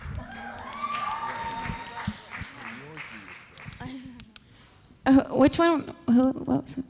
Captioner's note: audience cheering; indistinct conversation